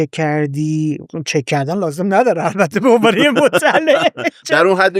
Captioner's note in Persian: خنده